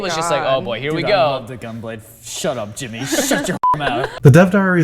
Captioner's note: chuckles